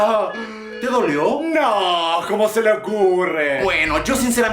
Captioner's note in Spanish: sarcasmo